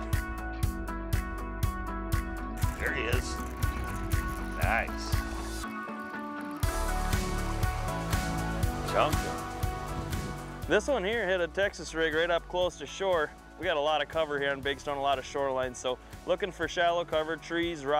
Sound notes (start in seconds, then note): 4.4 rod reeling noises; 7.1 fish splashing